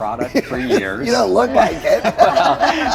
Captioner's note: all laugh